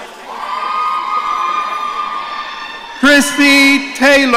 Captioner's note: audience cheering